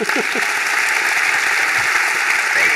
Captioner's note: applause